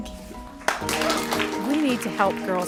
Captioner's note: applasue